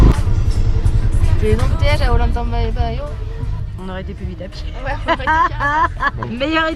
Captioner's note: laughs